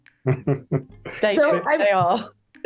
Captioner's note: chuckling